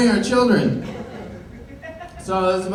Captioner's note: laughter